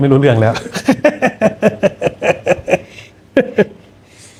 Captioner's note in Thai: เสียงหัวเราะ